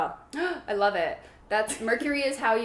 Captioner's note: gasps